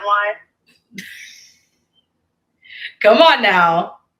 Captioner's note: Destiny laughs